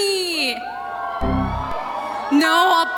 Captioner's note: faint cheers are heard from somewhere